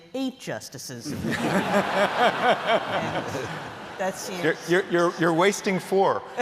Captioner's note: laughter